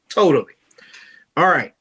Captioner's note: none